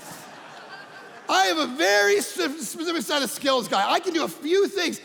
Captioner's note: audience laughing